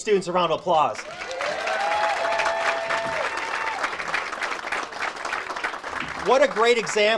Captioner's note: audience cheers and applauds